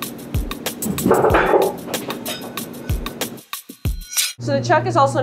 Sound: hook clatters

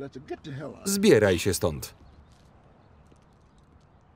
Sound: laughs

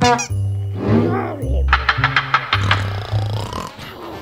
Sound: Mr. JB mumbling and snoring; snoring intensifies

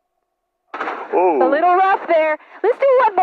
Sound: plane clanks

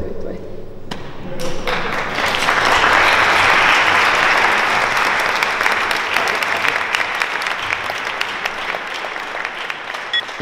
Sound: applause

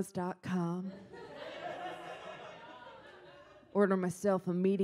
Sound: audience laughs

